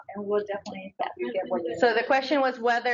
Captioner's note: audio warps